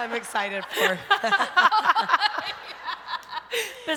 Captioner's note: laughter